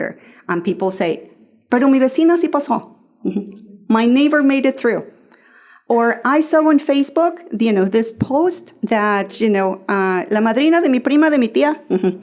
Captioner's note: Spanish